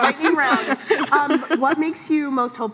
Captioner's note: laughs